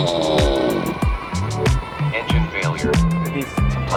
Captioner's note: drone whirring